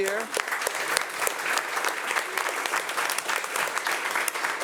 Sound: audience applauding

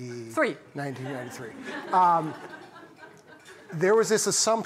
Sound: laughter

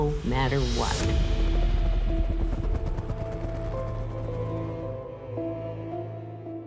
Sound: somber music; helicopter blades thumping

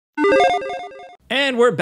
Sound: fast beeping

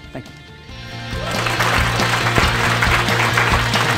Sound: applause

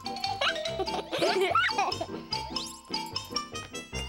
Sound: giggles

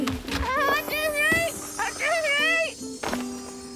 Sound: squawking

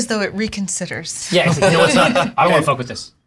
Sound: all laugh

